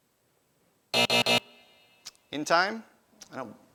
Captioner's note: buzzing